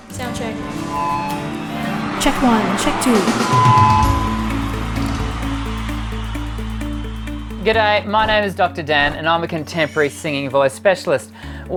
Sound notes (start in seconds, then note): 4.5 audience cheering